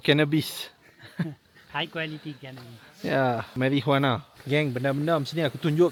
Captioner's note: laugh